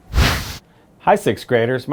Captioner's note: wind whooshes